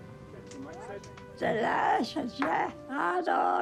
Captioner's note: woman speaks navajo